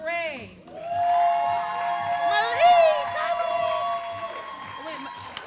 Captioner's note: all applauding and cheering